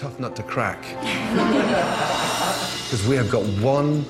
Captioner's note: everyone giggling quickly